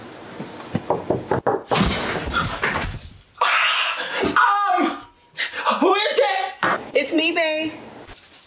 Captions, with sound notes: (Knocking on the door) Um... who is it? It's me babe.